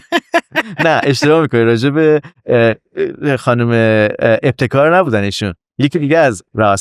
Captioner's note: laughs